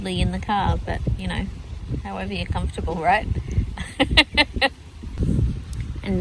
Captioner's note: chuckles